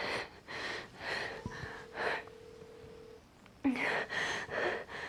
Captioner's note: heavy breathing